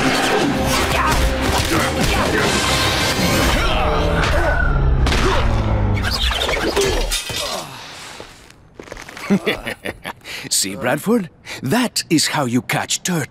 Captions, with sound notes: [grunting] [grunting] [laughing] See, Bradford? That is how you catch turtles.